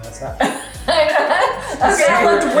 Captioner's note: laughing